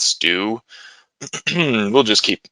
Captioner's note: clears throat